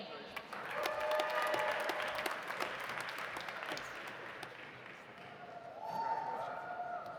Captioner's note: audience applauding; audience cheering